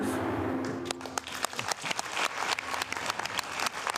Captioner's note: applause